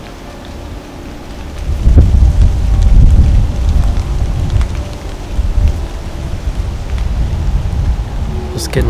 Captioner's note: wind blowing